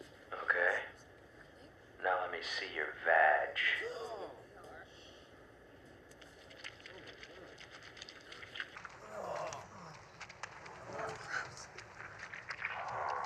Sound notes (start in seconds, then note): 8.8 squishy sounds